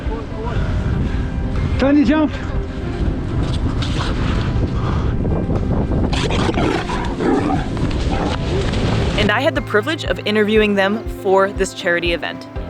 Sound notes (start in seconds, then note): 2.6 wind blowing; 6.0 fur seal vocalising